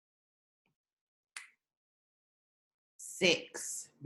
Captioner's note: snaps fingers